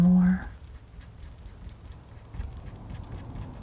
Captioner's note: scratching